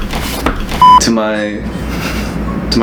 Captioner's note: beep